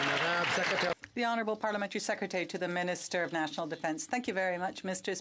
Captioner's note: some Applause